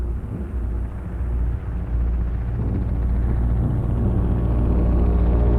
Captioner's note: helicopter whirring